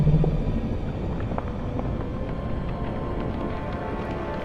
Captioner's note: rock crumbling